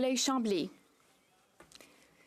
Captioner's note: speaking French